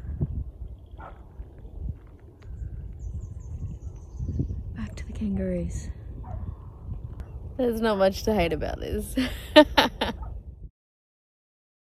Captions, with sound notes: Back to the kangaroos. There's not much to hate about this. [chuckles gleefully]